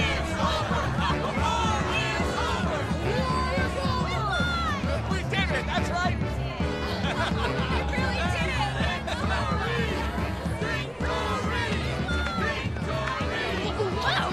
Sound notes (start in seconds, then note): 6.8 laughter